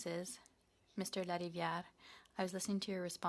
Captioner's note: speaking in French